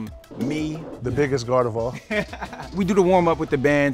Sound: laughs

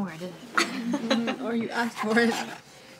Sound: laughter

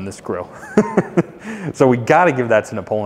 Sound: chuckles

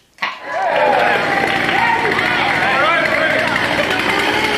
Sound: crowd cheering

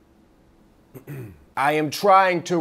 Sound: roommate clears throat

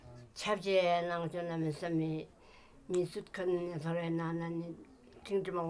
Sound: speaking in foreign language

